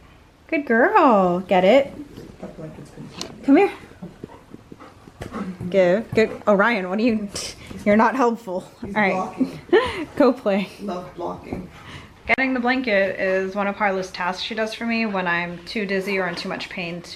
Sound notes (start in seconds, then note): 9.2 laughs